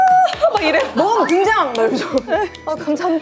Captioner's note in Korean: 일단 띄워주는 박수